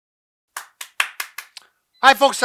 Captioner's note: clapping